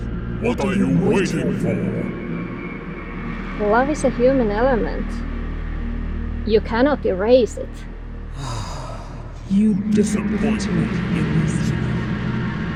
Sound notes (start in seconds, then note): 0.0 godly voice; 8.3 godly exhale; 9.5 godly voice